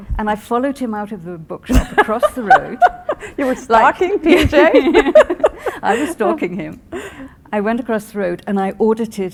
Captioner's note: laughing